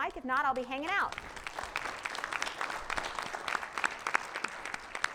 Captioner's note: participants applauding